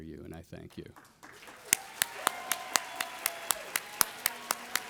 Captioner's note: audience applauding